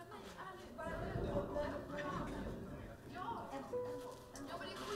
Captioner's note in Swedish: mullrande åska